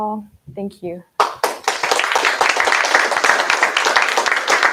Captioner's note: applause